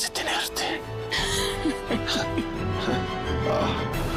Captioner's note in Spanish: Risas